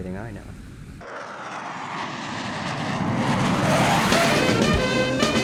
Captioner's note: aircraft whirring